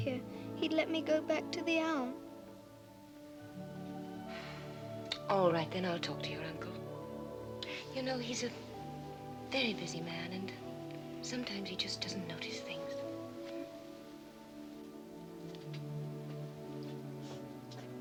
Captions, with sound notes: he'd let me go back to the Alm. - (sighing) All right, then. I'll talk to your uncle. You know, he's a very busy man and sometimes he just doesn't notice things.